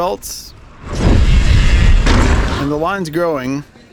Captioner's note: spinning tire whooshing